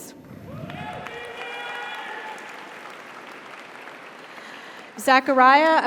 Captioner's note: audience cheers; audience applauds